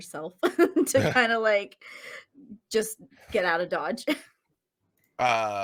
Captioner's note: laughs